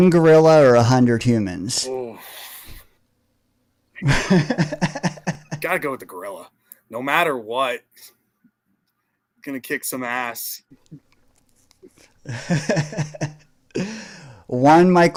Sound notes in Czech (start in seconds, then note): 8.7 smích